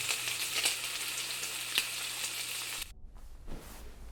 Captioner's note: bacon sizzling